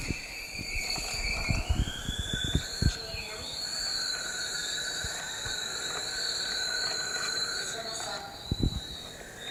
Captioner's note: audio playing from laptop, buzzing, faint voices